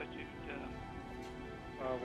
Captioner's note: murmurs